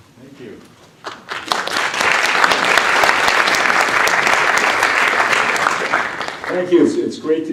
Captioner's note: applause